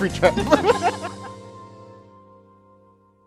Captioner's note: laughing